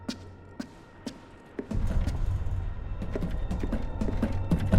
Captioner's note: eerie music; footsteps echoing